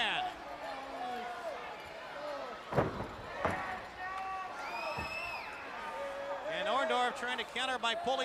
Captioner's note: crowd chatter